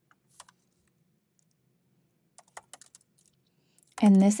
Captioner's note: keyboard clanking